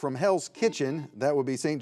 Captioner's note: buzzer beeps